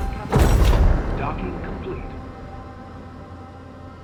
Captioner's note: computer Voice